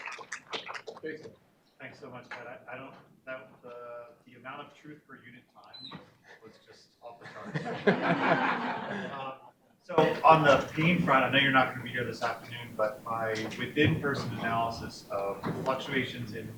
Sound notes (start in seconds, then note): 7.2 audience laughing